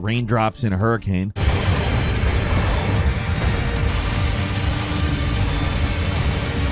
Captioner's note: dramatic music; lasers blasting